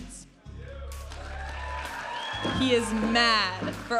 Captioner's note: audience applauding and cheering